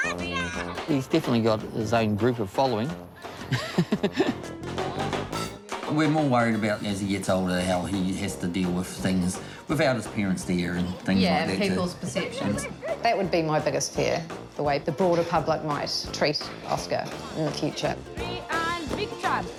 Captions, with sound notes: He's definitely got his own group of following. (LAUGHS) We're more worried about, as he gets older, how he has to deal with things without his parents there. Yeah, people's perceptions. That would be my biggest fear - the way the broader public might treat Oskar in the future.